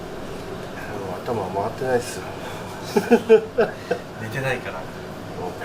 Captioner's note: laugh